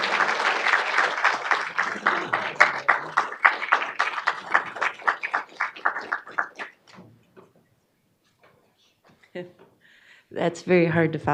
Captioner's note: applause